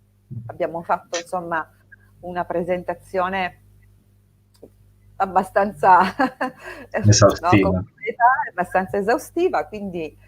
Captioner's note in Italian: risate